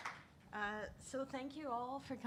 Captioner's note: audience applauding